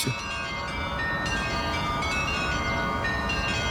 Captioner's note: bell ringing